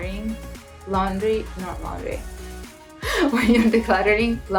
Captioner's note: laughs